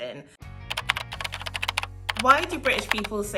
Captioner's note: keyboard clacking